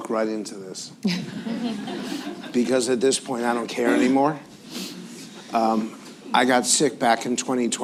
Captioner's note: laughter